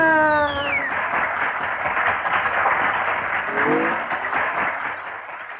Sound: crowd Applauding

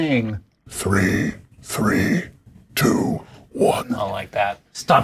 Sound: croaking

